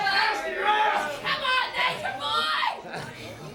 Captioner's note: crowd chatter